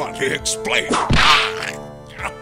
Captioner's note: whip crack!